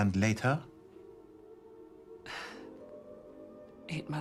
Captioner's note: menghembuskan napas dengan tajam